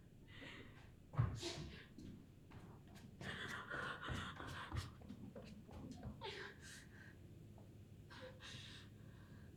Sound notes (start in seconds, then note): 3.6 Catherine panting